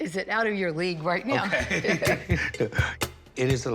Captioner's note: laughs